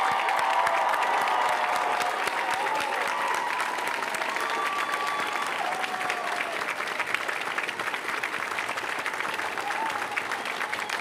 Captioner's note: cheers & applause